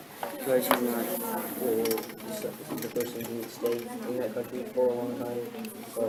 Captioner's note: student chatter